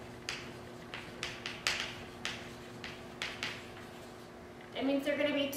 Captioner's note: chalk writing on chalkboard